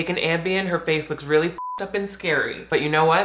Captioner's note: beep